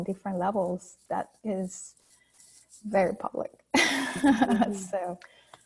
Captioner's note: laughing